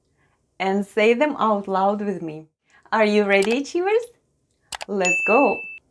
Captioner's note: click & ding sounds